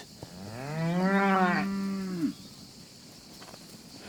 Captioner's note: mooing